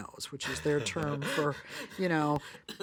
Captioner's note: laughs